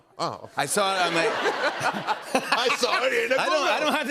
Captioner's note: laughter